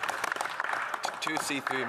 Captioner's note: some Applause